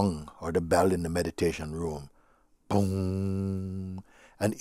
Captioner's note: mimics sound of gong